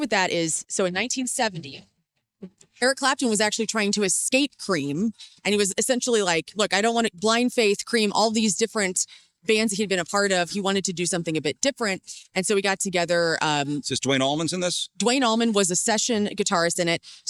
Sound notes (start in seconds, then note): none